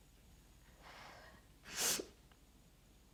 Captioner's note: sniffles; exhales